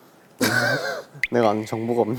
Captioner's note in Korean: 트흐흫